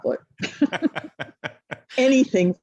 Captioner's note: both laugh